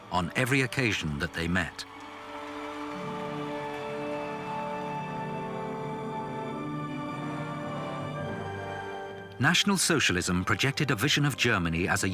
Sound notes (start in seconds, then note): 2.8 crowd cheering